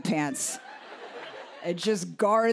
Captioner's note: laughter